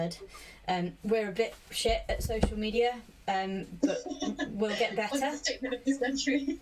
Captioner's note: laughs